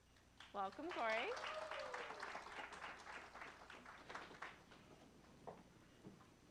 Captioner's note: applause